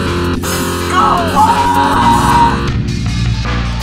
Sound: screams

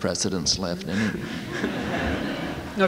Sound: laughter

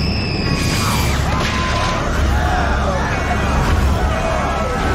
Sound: people screaming

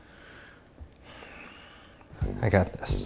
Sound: sighs

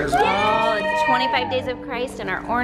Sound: children cheering

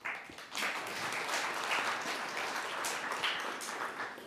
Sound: audience clapping

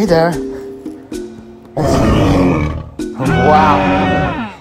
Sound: Triceratops roaring

